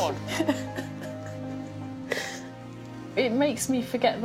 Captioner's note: sniffling and chuckling